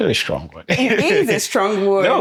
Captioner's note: laughing